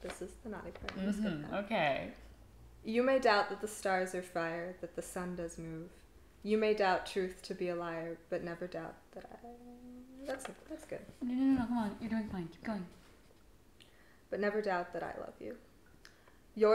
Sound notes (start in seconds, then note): none